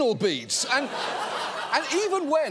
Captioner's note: studio audience laughs